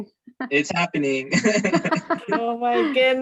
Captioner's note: chuckling